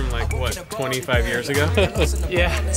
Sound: laughs

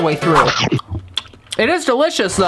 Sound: munching; crunch

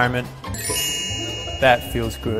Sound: chime ringing

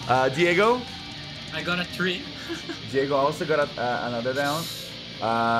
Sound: laughs

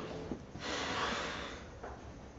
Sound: breathes Deeply

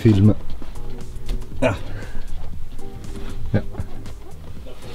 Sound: random moaning for better view

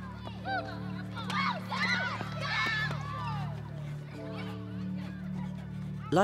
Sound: laughter and screaming

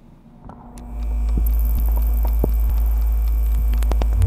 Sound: buzzing

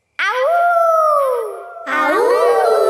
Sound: kids howling; howling

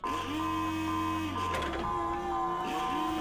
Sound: alarm blaring

